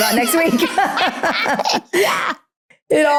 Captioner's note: both laughing